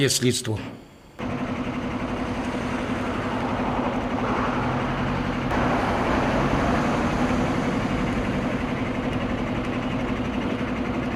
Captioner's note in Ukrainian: Шум техніки